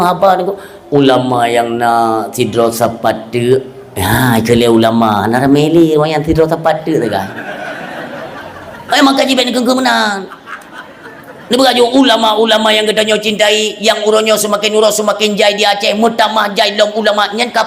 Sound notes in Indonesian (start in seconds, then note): 10.0 tertawa